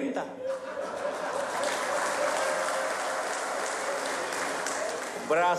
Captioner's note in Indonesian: tepuk tangan